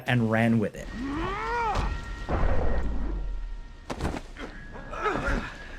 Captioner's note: Agent Smith yells; blows thudding; group grunting